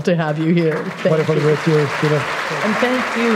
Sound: applause

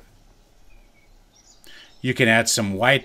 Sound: birds chirping

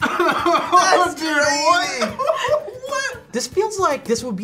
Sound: laughs

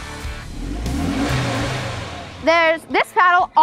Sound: car engine revs

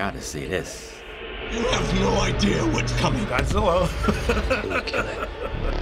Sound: laughs

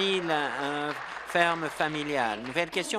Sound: applause

